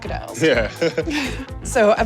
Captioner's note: laughs